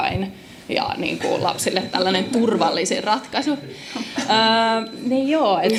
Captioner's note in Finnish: naurua